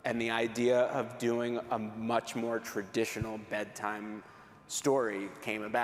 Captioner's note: none